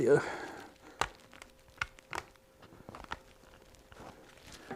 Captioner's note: scraping